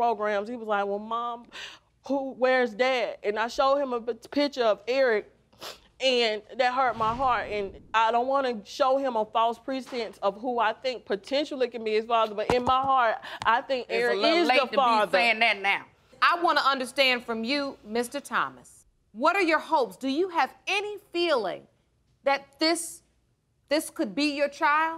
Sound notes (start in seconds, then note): 5.6 sniffles